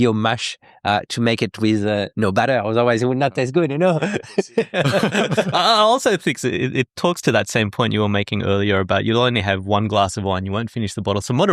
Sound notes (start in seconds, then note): 3.9 laughing